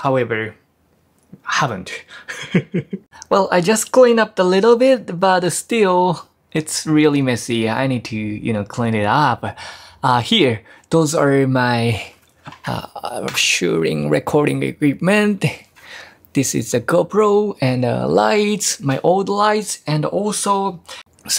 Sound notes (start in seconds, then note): 2.1 chuckles